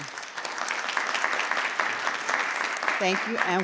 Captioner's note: audience applauding